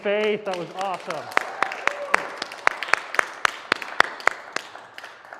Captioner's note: applause